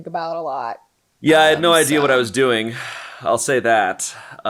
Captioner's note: sighs